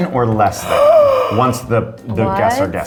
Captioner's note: gasps